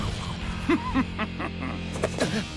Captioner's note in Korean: 두리안 웃는 소리